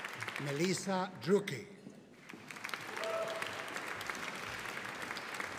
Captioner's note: audience applauding